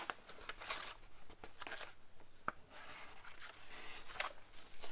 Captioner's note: pages rustling